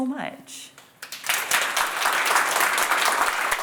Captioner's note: applause